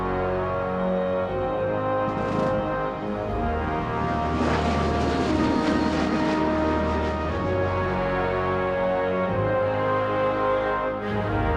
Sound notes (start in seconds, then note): 4.5 plane droning; 7.7 triumphant music continues